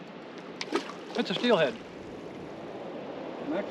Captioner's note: footsteps on rocks